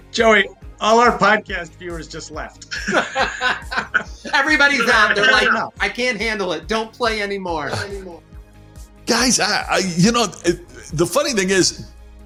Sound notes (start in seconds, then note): 2.7 laughter